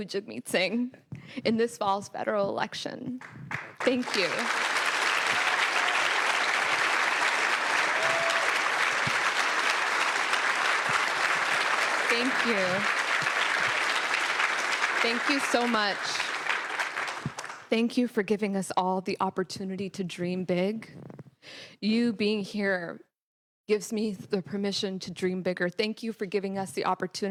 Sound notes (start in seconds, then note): 7.6 applause; 11.4 cheering/Applause